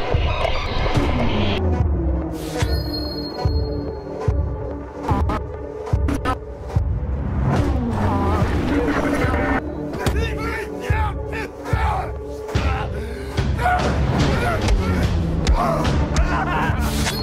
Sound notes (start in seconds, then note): 0.2 creepy intense music; 5.2 creepy intense music; 5.2 vocal distortion; 9.9 men grunting